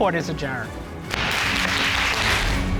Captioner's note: audience applauding